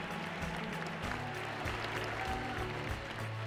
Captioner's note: indistinct chatter